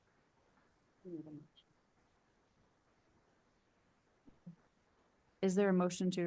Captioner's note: board member speaks faintly